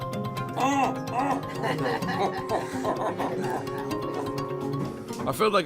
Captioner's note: tense music; grunting in pain, then laughing